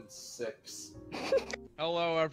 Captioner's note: snickers